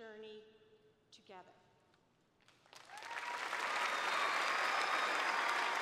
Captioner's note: cheers and applause